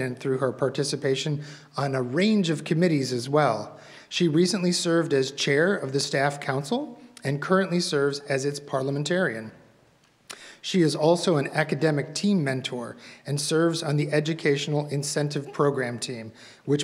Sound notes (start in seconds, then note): none